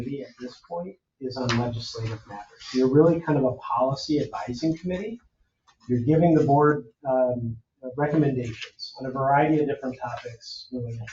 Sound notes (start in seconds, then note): none